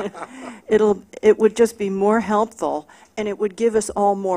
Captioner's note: laughter